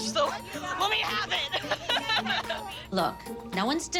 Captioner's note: laughs